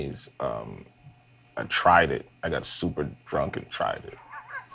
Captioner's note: laughs